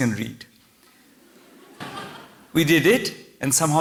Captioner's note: laughter